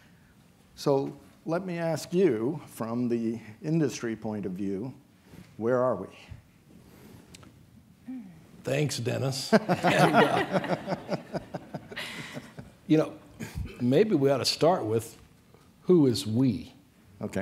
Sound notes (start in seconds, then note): 9.6 laughing